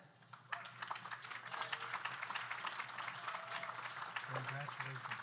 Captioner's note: audience applauds